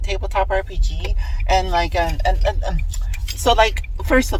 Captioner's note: stammering